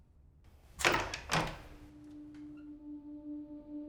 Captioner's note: door clicks